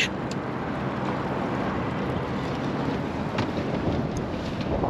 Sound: water lapping

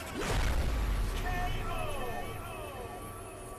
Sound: voiceover

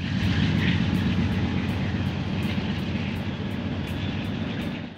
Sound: train noise

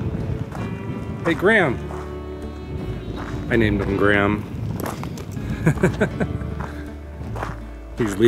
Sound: laughter

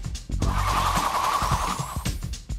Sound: whirring

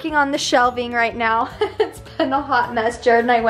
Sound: chuckling

